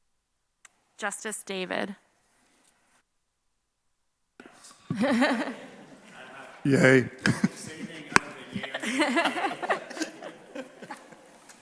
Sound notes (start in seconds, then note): 4.6 chuckling